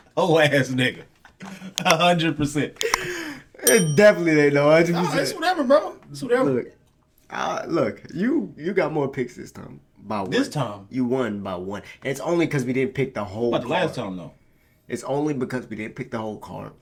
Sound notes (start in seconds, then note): 3.2 clapping